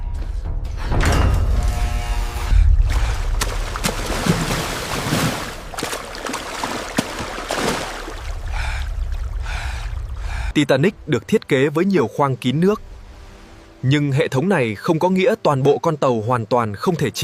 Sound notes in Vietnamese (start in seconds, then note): 8.4 thở dài